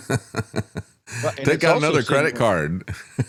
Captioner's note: laughs